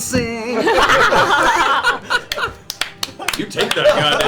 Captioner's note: all cheer